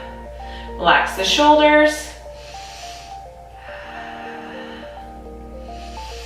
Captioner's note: breathing deeply